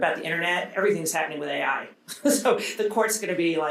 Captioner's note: chuckling